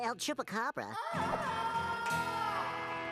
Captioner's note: wailing